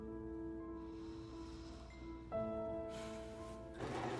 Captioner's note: sighing